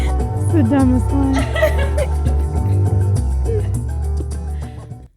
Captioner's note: laughing